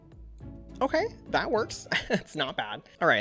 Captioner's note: laughs